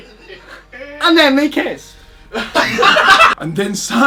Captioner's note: laughs